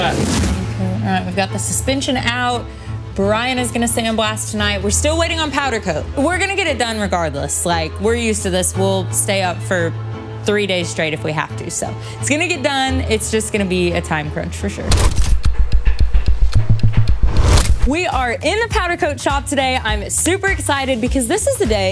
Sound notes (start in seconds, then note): 15.3 dramatic clock ticking